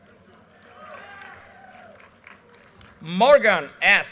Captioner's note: audience cheers and applause